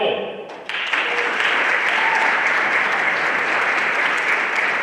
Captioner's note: everyone applauding